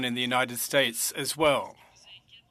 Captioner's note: speaking French